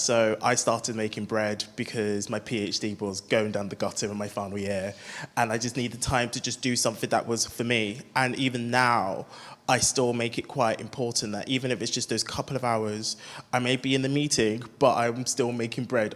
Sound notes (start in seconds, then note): none